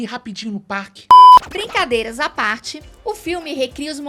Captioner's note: beep